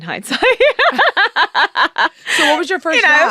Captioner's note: laughing